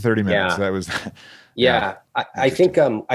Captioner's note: chuckles